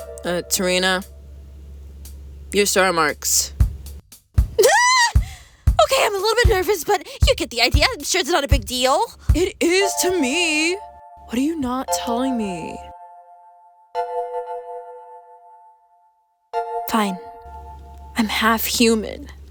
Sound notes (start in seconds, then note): 4.5 Terri yelps